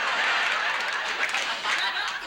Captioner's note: audience laughs